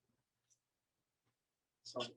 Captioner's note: silence